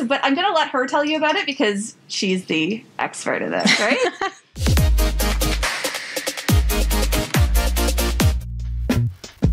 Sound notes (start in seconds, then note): 3.6 laughs; 4.6 upbeat electronic music; 9.2 laid back music